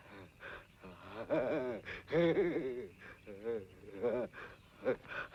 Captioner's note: maniacal laughter